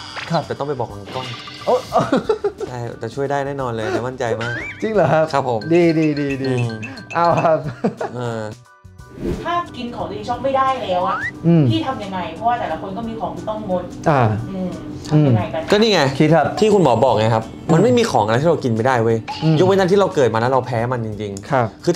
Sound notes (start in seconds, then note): 7.3 laugh